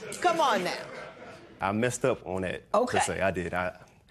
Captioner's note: laughter